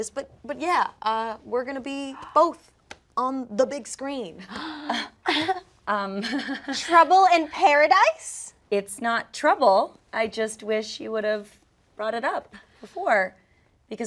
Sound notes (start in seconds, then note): 4.7 Kelsi giggling